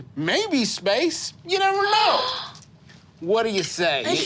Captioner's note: gasping